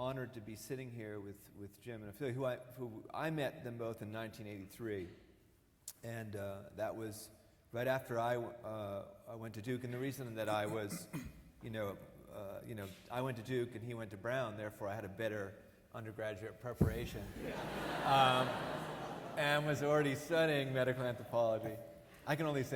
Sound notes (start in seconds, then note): 17.2 audience laughing